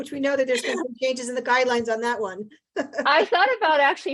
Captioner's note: chuckles